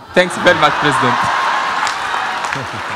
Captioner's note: laughter